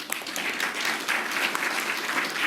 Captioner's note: applause